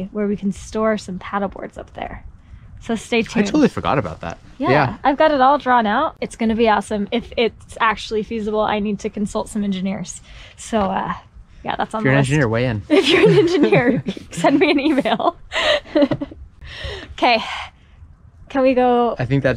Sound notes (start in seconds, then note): 15.3 laughs